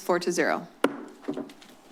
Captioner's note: gavel tap